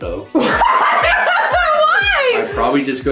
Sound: laughing

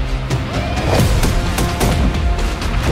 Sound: gunshots

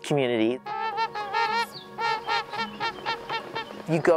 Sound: birds honking

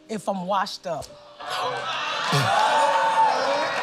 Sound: cheers and applause; gasps

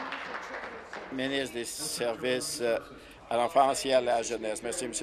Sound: applause

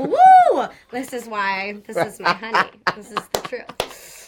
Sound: he laughs

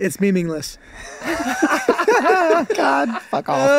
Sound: all laughing

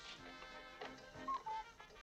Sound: clock coo-coos

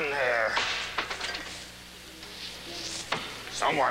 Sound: clatter

